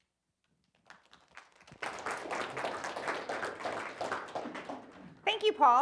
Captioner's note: applause